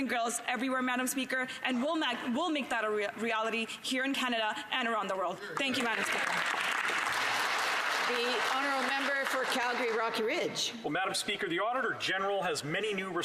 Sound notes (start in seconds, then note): 9.6 some Applause